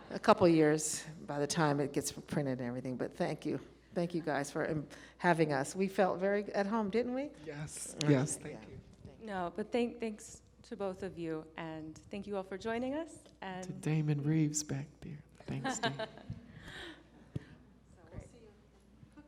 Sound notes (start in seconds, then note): 15.6 laughs